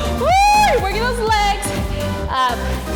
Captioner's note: yells